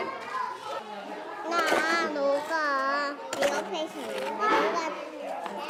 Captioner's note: children speak korean